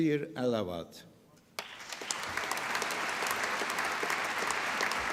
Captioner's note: applause